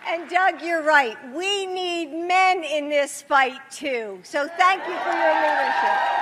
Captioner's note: applause